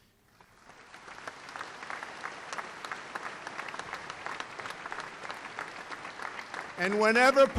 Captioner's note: applause